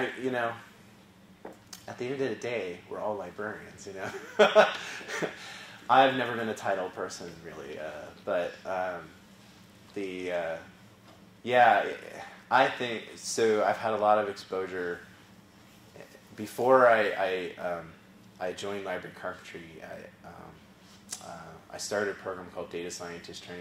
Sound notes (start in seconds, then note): 4.2 laugh